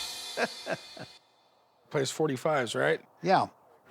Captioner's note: chuckling